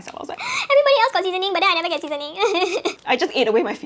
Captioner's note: cries